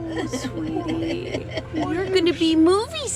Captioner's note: laughing